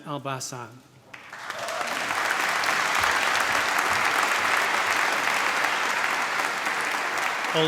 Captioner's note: applause